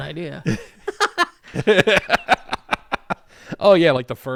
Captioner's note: laughs